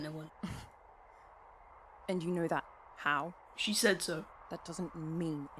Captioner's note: Regulus scoffs